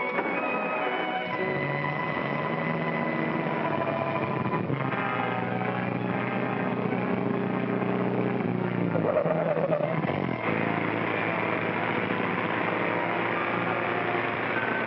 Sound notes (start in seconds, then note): 0.0 car door closes; 0.0 eerie whimsical music; 0.3 engine starts & car accelerates away; 4.4 car rumbling; 4.4 sinister music; 8.7 tires squealing; 9.4 dramatic music; 10.3 car engine racing